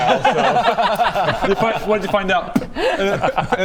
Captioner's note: spit